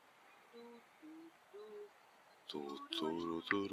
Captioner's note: humming